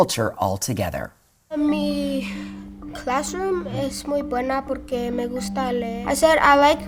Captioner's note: speaking in foreign language